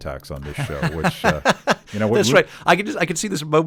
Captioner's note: laughing